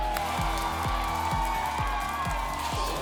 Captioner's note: applause and cheering; whoosh